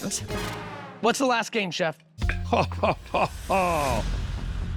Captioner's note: chuckling